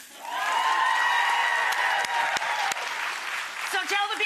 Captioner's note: audience applauding, cheering